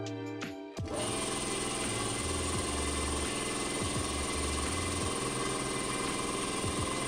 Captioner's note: air pump noises